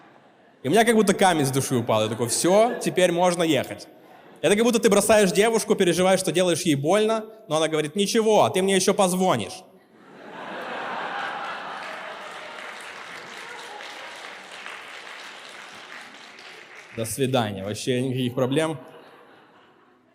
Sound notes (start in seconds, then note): 12.8 applause